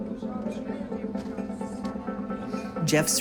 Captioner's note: people chattering